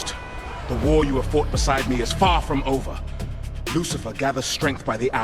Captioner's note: screaming